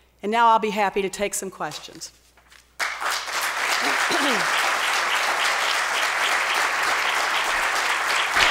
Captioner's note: applause